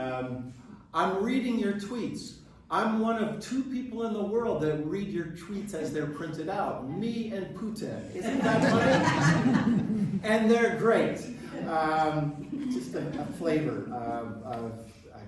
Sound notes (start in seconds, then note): 8.1 crowd laughing